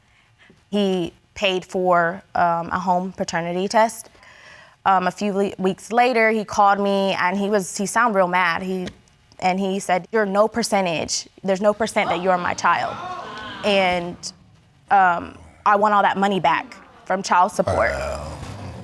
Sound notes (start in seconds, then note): 11.6 audience exclaiming